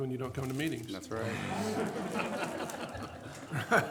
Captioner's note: laughing